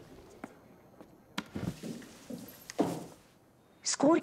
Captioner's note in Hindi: none